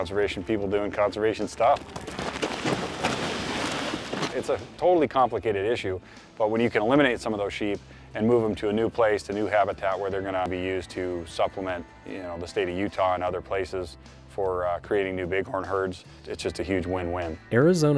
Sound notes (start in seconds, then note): none